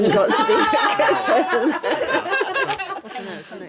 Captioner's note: laughing